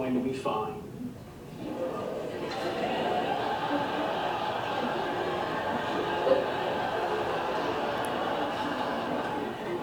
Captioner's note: audience laughter